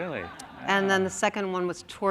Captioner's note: laughter